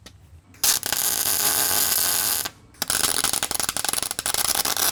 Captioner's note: electricity popping